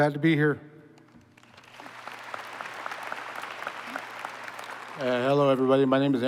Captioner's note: applause